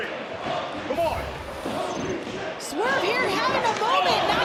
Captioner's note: audience chanting " -- "